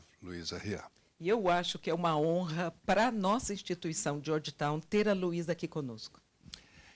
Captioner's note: translator speaking Portuguese